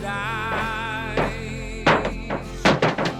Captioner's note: knocking